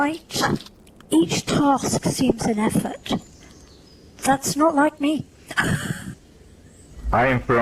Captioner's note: frustrated laugh